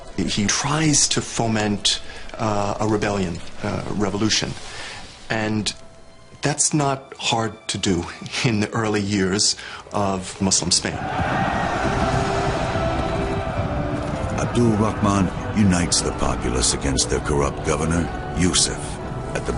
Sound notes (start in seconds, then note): 12.1 shouting